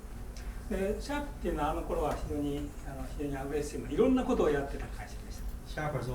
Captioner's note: speaking in foreign language